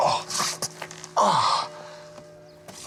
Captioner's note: groans